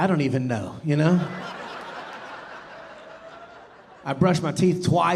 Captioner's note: audience laughing